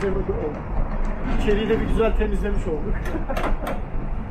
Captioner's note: laughing